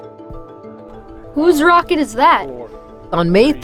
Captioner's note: voiceover